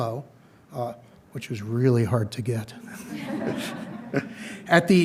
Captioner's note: audience chuckling